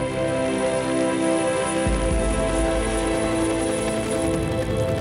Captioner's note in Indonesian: suara baling-baling